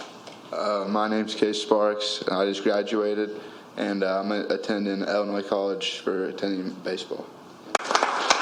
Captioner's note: applause